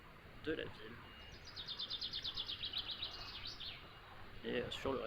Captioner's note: same fancy bird noise